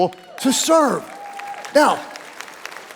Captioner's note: audience applauding